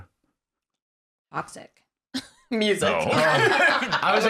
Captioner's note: laughs